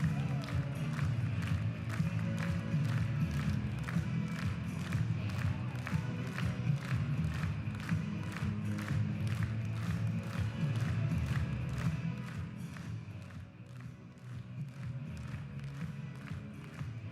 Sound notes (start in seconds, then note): 6.6 rhythmic applause